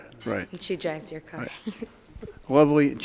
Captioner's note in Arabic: ضحكات